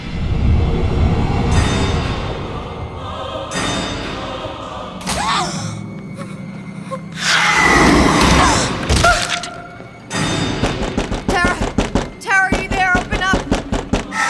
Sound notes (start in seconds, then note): 0.3 dramatic ominous music; 5.1 Tara gasps; 10.0 knocking; 14.1 Tara screaming